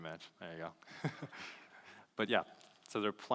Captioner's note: laughs